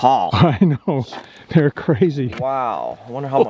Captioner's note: laughs